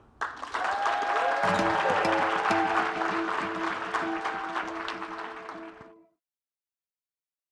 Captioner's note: applause